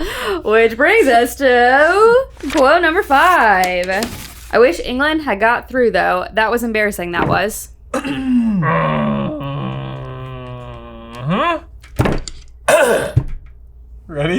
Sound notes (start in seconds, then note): 8.0 groaning; 12.6 clears throat